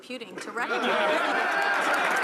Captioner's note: some applause